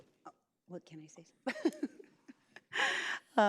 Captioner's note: laughs